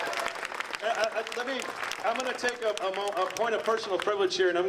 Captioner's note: audience applauding